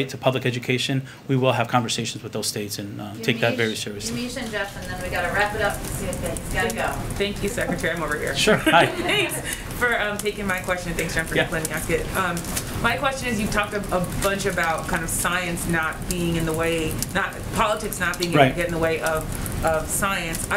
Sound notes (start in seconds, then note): 8.3 laughs